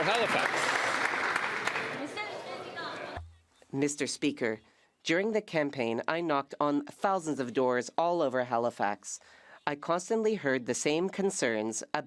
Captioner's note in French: voix de l'interprète